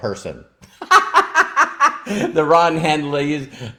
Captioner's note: laughs